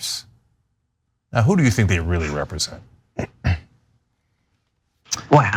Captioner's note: cough